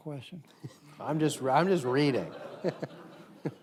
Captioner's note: audience chuckles